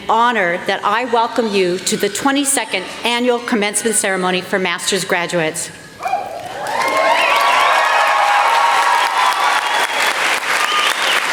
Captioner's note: applause